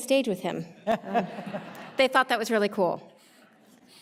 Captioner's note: audience laughing